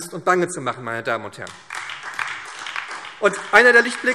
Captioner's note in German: Beifall SPD und DIE LINKE